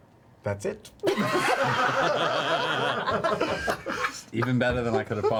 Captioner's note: all laugh